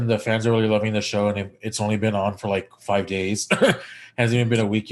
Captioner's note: chuckles